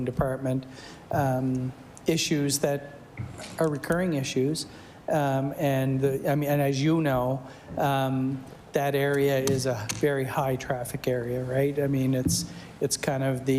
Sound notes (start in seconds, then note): none